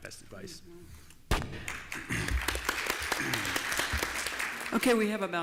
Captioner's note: applause